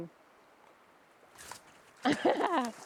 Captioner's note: chuckling